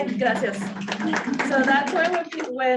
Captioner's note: audience clapping